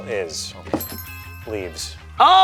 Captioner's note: bell chiming